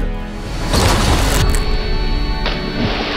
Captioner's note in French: choc contre un rocher